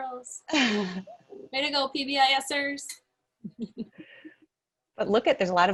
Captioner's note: laughs